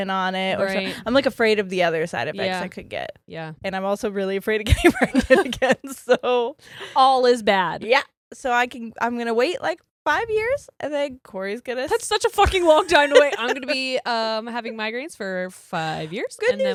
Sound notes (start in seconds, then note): 4.7 giggles